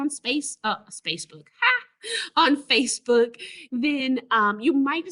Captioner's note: laughs